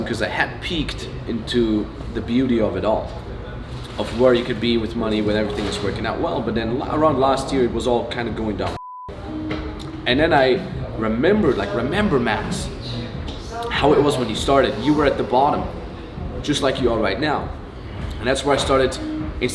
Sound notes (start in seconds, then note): 8.7 beep